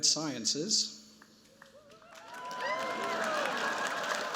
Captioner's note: cheers, applause